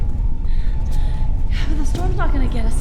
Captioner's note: wind howling nearby